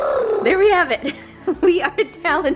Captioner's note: laughing